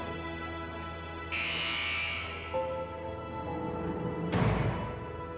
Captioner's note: buzzer ringing